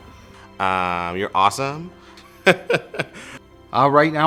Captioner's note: laughs